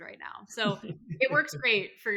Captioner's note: laughs